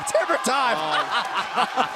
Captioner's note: laughter